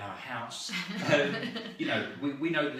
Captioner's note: laughs